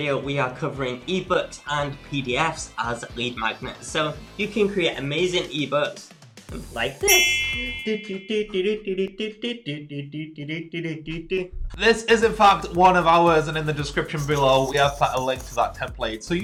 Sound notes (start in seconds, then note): 7.0 bells rings; 7.8 humming